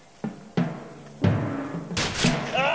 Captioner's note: gunshot